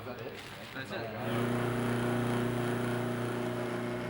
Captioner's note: machinery whirring